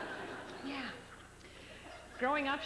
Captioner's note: laughter